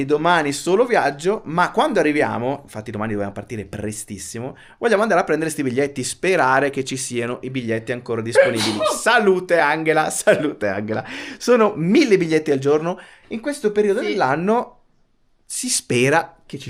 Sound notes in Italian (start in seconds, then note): 9.0 risate